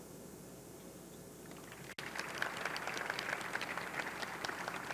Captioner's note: audience clapping